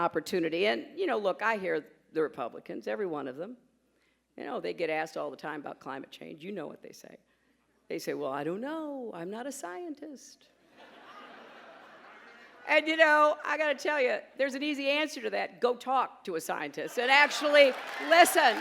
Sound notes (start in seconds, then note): 14.0 laughter